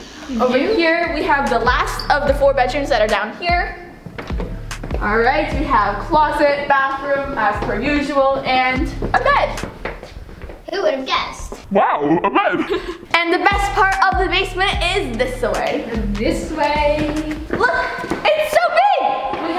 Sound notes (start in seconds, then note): 11.7 laughing